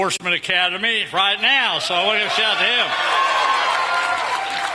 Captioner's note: applause